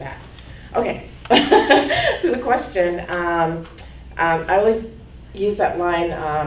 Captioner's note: laughs